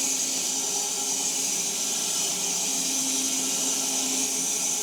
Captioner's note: log saw whirring continues